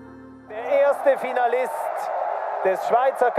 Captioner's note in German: TV-Ton